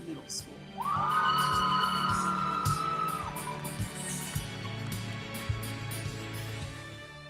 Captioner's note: audience cheering; audience applauding